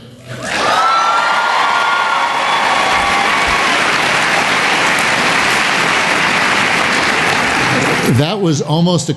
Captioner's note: cheering and Applause